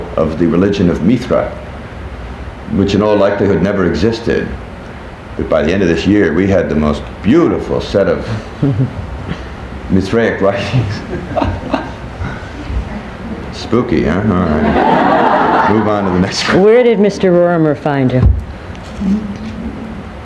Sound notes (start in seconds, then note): 14.3 people laughing; 14.4 chuckles